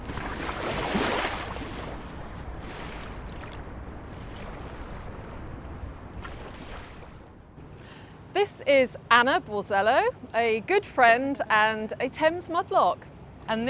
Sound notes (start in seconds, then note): 0.0 waves splashing ashore